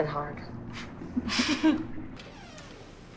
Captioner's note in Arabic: كلا ضحكة مكتومة